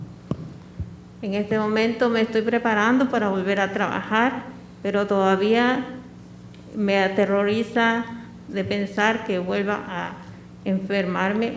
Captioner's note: speaking spanish